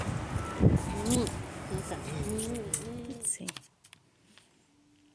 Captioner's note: kissing